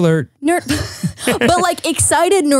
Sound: laughs

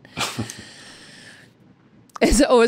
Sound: laughs

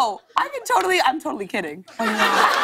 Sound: laughter and applause

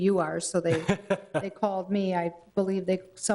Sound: laughs

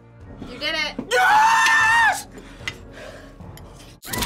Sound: screams

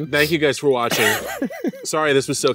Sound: laughs

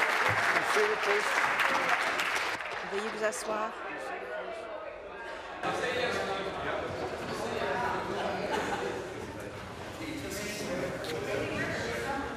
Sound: some Applause

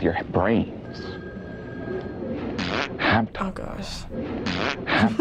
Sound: fart noise

